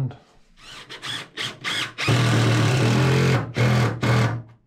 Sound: drilling

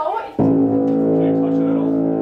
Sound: fog horn sound

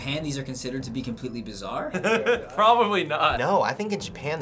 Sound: laughs

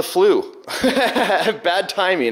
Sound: laughs

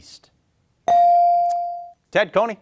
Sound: bell ringing

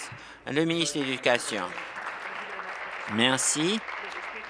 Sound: applause

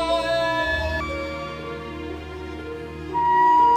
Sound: siren

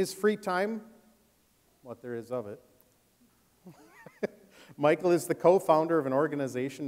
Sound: laughs

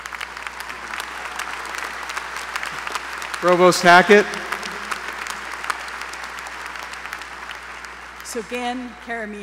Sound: applause

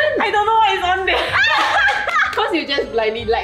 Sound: everyone laughs

